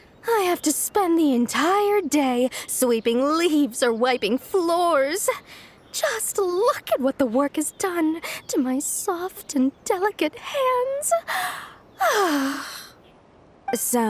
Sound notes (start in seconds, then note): 12.0 sigh